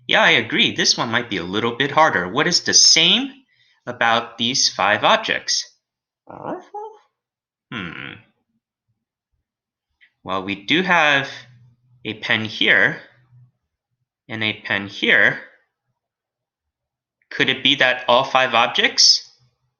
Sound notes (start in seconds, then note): 6.2 alien space doggy groans